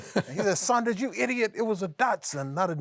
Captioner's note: laughs